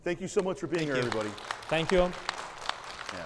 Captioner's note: audience applauds